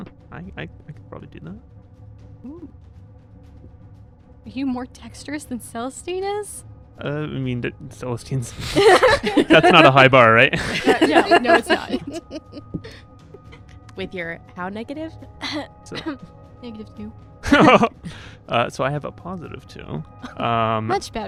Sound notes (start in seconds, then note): 15.9 cough cough